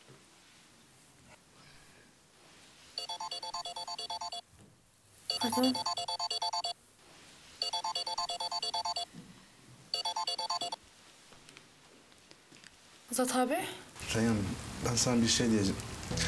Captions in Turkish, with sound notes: [ TELEFON ÇALIYOR ] Azat abi, Reyyan ben sana bir şey diyeceğim.